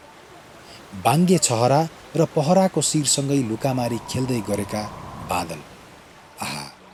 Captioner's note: waterfall